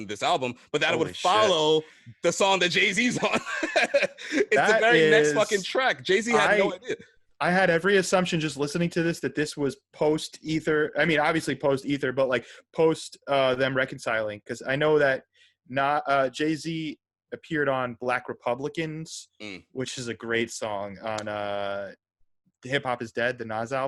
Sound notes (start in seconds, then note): 4.9 laugh